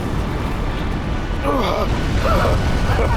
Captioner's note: grunts; laughs